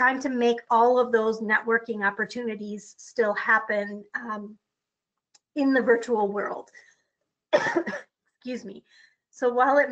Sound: coughs

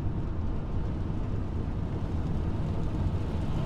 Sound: car driving

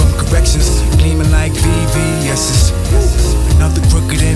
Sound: whoo

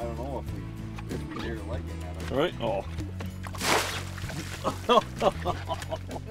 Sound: splash; laughing

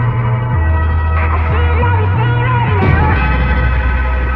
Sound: woo

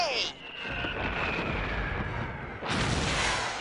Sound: fireworks exploding; cannon blasting

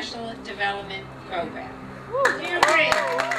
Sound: cheering, whooping

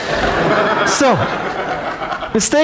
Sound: audience laughs

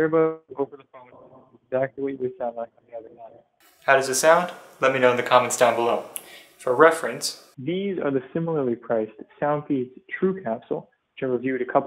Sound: microphone test

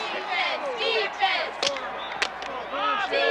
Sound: cheerleaders clapping

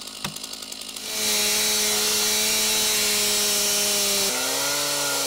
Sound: chainsaw engine roaring

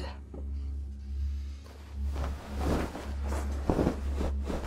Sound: blanket ruffles

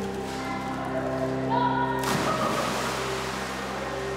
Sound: water splashes

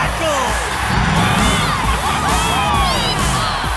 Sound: cheering

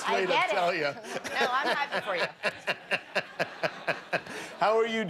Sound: laughter

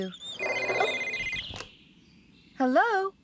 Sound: cell Phone Rings

